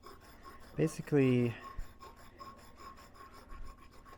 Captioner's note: breathing heavily